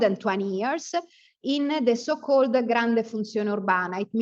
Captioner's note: speaks Italian